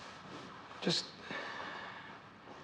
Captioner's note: sighs